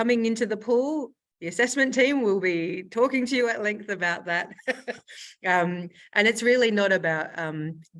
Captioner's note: laughs